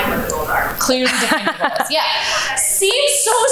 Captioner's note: laughs